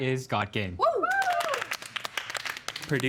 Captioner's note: cheering